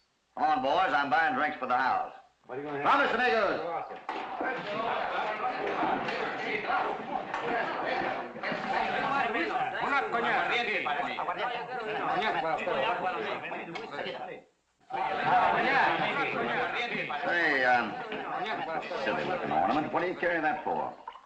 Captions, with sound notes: Come on, boys, I'm buying drinks for the house. [ IN SPANISH ] Come on, friends. [ ALL CHEERING ] Say... that's a silly ornament, what are you carrying that for?